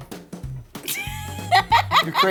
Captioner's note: laughs